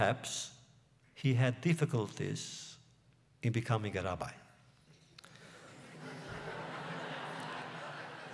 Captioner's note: laughter